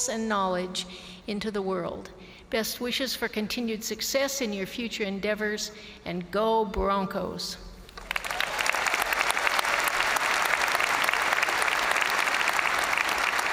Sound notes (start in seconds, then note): 8.0 crowd applauding